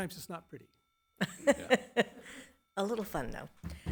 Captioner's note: laugh